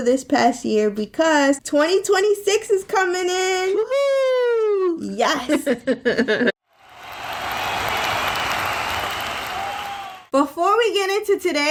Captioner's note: cheering Sound Effect